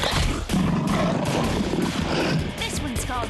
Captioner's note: growling